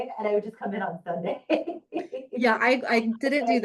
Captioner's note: laughing